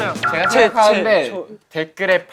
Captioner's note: voice full of confidence